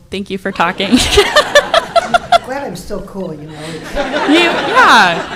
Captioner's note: laughter